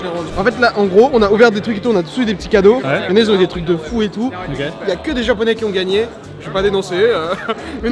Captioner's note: laugh